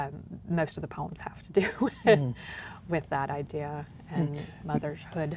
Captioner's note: laughs